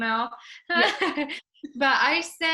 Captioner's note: laughs